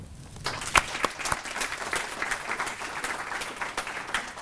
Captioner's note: applause